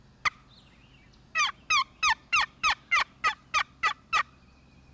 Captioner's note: turkey call clucking